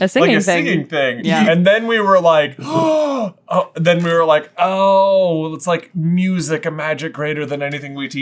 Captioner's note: gaaaaaaaasp